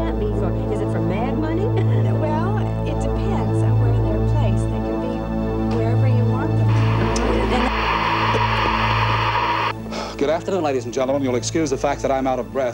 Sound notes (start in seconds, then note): 6.6 static